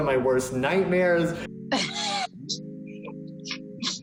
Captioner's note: laughs